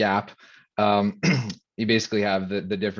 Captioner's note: clearing throat